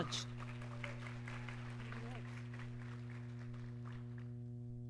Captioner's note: audience clapping